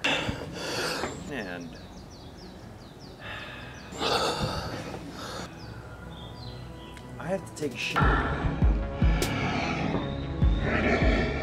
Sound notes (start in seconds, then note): 0.0 exhausted breathing; 3.2 extreme breathing; 8.0 breathing like death is coming